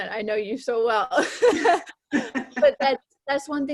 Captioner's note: laughs